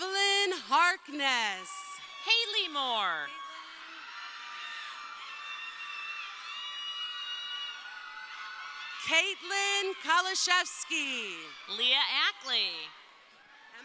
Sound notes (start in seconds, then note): 1.5 crowd cheering; 4.8 crowd cheering